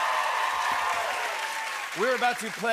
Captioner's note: cheers and applause